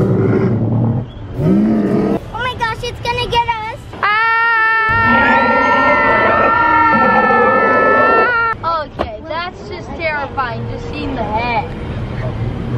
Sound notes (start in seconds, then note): 1.3 dino rumbles; 4.0 screams